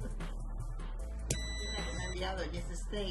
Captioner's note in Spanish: sonido: piiiiii